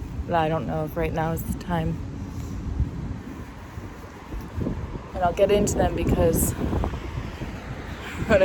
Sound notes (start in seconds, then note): 2.7 wind gusts; 4.6 wind gusts; 7.6 chuckles